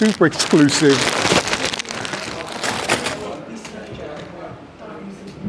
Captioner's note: plastic rustling